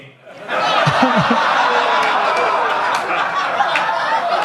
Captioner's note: audience laughs